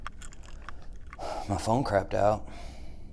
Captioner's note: none